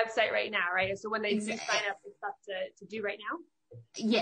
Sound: faintly speaking

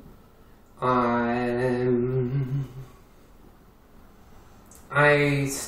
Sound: huming

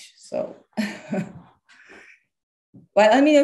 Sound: chuckles

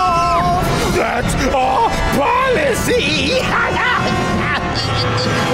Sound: laughing

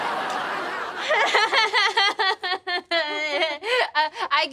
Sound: laughs nervously

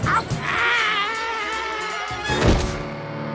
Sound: screams

